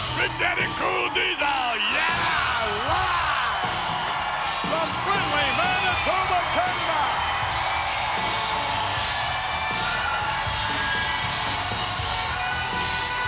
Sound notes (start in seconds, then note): 7.2 crowd cheering; 7.2 upbeat rock music